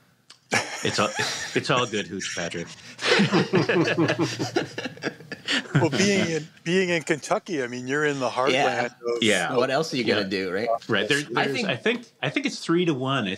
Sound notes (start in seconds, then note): 0.4 laughs; 2.9 laughter